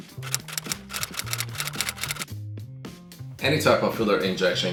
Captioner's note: keyboard keys clicking